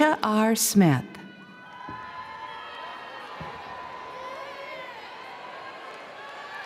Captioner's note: audience cheering and applauding